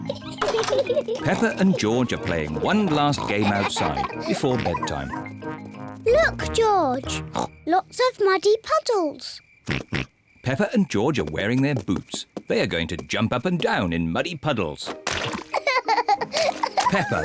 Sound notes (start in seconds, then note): 7.3 snorts; 15.4 giggles